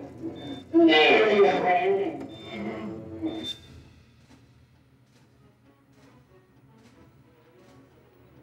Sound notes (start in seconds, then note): 0.0 dramatic music; 0.8 Donald groans